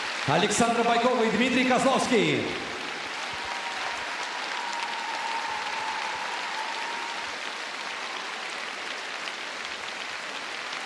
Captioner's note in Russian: аплодисменты